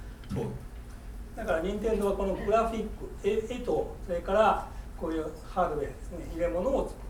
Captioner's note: speaking in foreign language